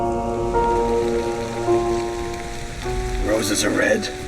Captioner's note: eerie music; rain falling